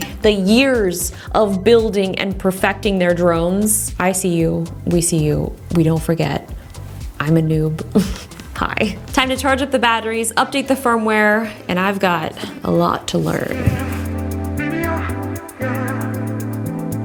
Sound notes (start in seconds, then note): 8.0 laughs; 14.5 calm music